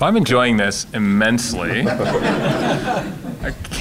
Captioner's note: laughter